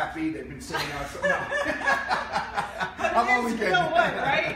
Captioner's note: laughing